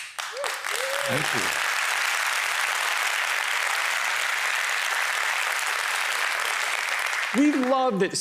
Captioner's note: applause